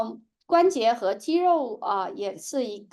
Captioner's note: speaking chinese